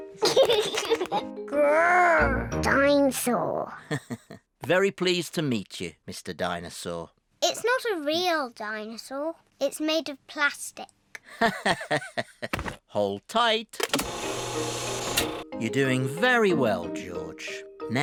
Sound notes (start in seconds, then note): 0.2 giggles; 3.9 chuckles; 11.4 laughs